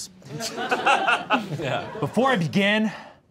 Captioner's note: all laughing